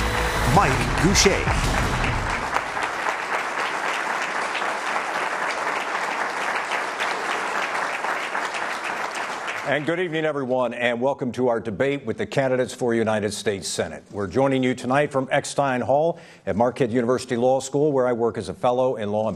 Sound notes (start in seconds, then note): 6.2 applause